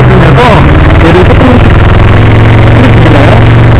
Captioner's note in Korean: 흑벌이 : 쿠르르르릉